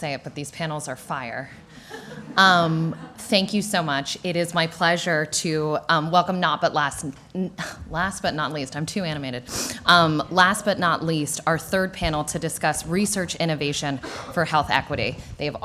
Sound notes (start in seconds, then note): 1.8 laughter